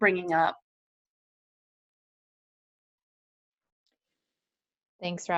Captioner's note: silence